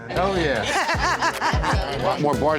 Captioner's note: laughter